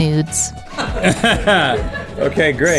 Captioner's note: laughing